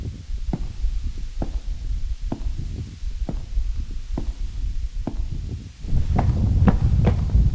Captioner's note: footsteps